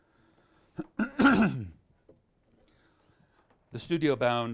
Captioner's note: clears throat